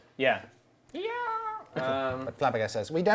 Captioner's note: shouts